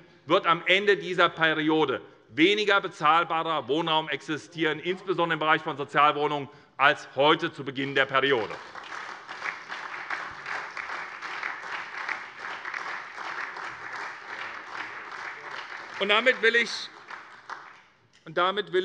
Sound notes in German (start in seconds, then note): 8.2 Beifall SPD und vereinzelt DIE LINKE